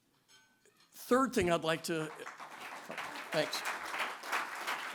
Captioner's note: applause